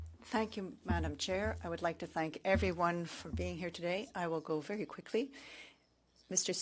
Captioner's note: speaking French